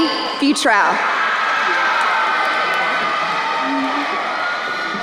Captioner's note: crowd cheering